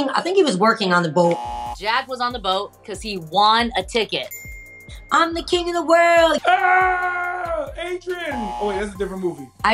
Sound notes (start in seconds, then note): 1.3 buzzer rings; 4.2 bell dings; 8.2 buzzer rings